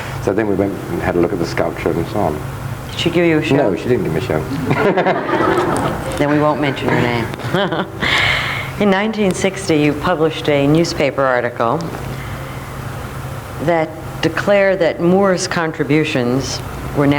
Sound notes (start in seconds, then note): 4.3 audience laughing; 4.4 laughs; 8.2 chuckles